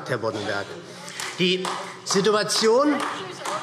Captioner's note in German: Beifall